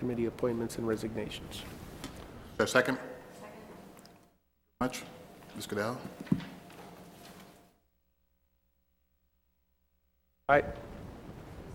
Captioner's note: audio dropped